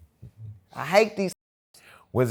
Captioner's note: muted